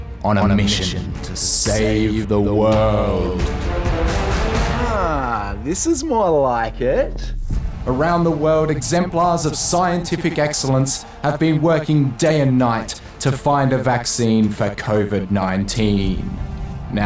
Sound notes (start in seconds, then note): 8.3 echoes